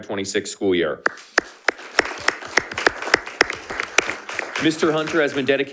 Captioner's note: attendees applauding